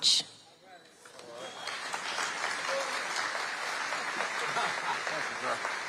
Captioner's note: audience applauding